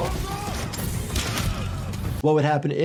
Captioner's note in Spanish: personajes gruñendo